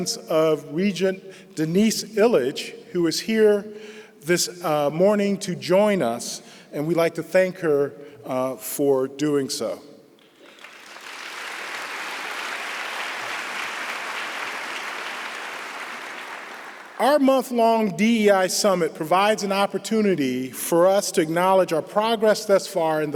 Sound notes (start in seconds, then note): 10.2 applause